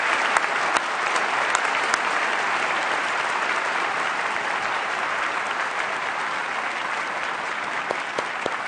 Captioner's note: applause